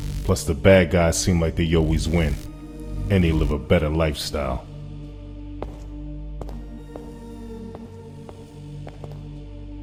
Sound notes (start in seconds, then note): 6.3 footsteps fall